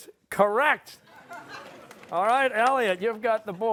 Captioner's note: applause